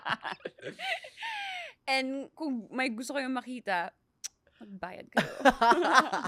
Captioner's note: laughs